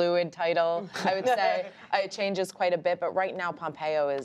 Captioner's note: laughter